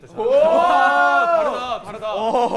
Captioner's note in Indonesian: Ouu~~~!!